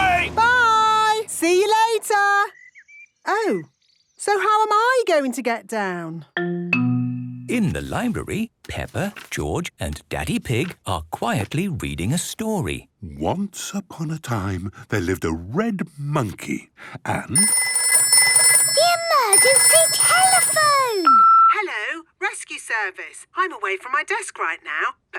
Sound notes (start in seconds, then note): 17.3 phone ringing; 21.1 answering machine